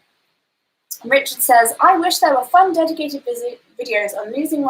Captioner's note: none